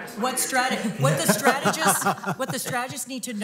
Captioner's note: chuckling